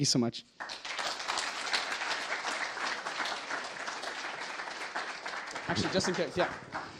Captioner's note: applause